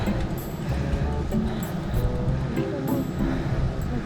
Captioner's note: out of breath